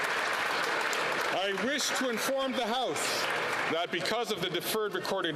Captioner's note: applause